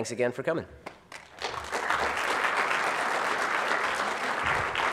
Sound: audience applauds

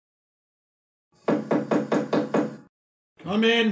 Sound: knocking on door

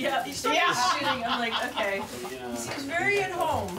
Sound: laughter

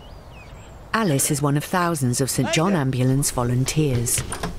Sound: voiceover

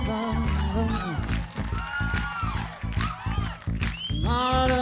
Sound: crowd cheering

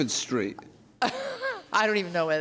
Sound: laughs

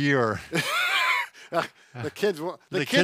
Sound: laughs

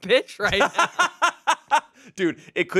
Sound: laughs

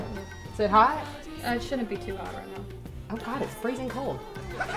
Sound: laughter

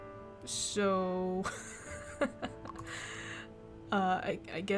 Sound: laughs

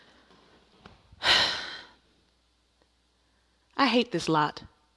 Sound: Myrtilla sighs

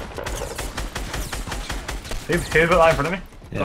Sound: guns firing

